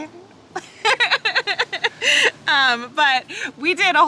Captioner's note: laughs